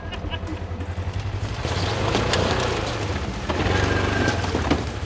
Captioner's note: women laugh; engine rumbles